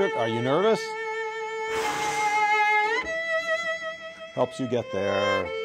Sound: exhales deeply

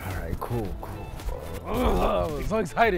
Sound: son grunts excitedly

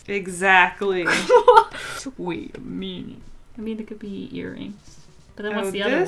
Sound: laughs

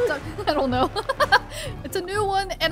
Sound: laughing

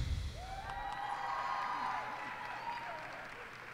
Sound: cheers and applause

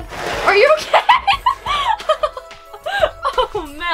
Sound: laughter

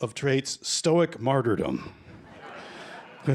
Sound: laughter

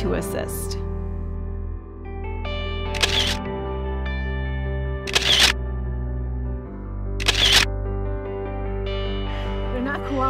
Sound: camera shutter noise

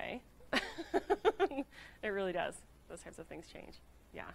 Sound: laughing

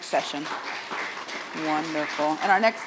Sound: audience applauds

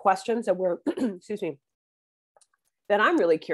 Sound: clears throat

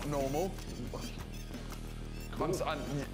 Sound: rocking-horse creaks

